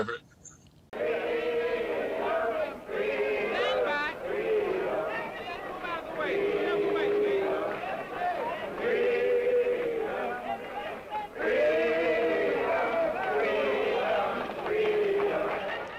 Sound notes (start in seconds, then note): 5.3 protesters speaking and chanting